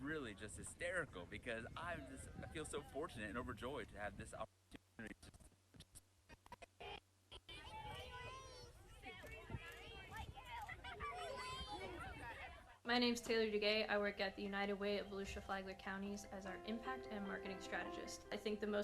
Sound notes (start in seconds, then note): 7.3 children murmuring